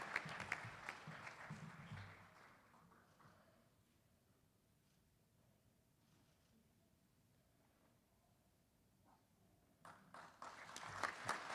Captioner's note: applause